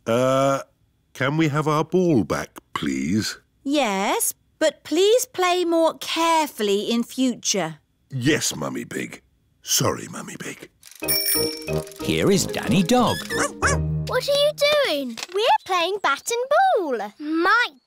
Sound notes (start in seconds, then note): 11.0 bell ringing